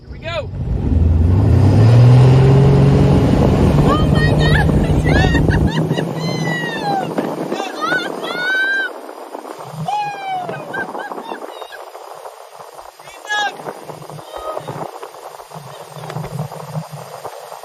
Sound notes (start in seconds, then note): 3.9 laughing; 5.7 people cheering and yelling; 9.6 water rushing loudly